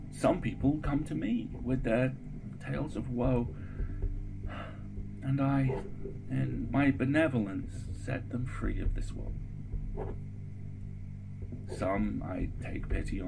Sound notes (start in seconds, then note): 4.5 sighs